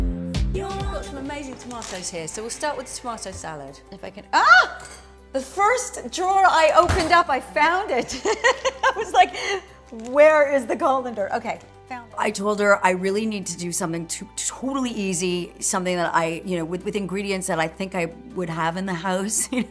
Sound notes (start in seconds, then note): 4.3 yells; 8.1 laughing